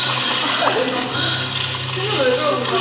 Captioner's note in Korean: 빵 터짐